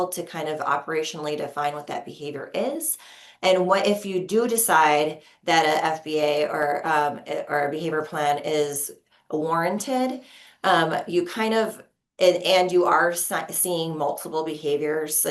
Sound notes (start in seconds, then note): none